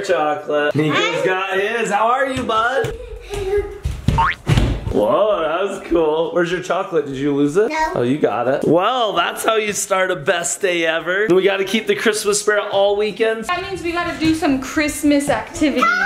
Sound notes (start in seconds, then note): 2.8 child laughing; 4.6 footsteps thudding